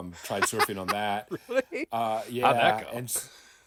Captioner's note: laughing